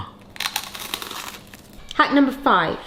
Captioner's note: toastie crunching